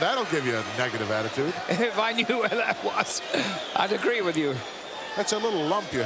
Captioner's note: laugh